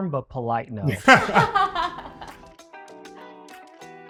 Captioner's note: all laughing